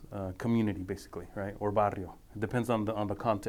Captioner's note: speaking foreign language